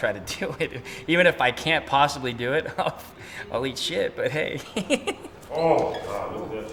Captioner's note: laughs